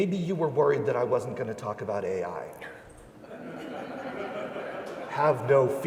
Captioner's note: laughing